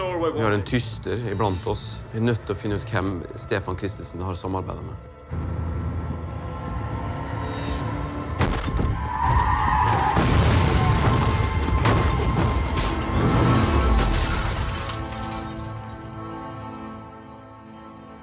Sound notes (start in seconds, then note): 8.4 thuds; 8.8 tyres screeching